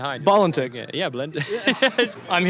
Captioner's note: laughs